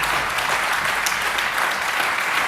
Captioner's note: applause